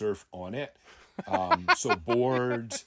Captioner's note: laughing